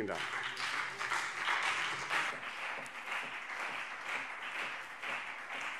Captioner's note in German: Beifall BÜNDNIS 90/DIE GRÜNEN und CDU